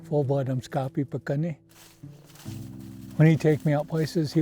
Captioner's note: speaking in foreign language